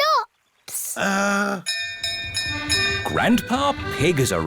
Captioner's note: bell rings